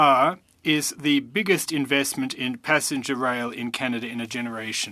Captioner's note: speaking French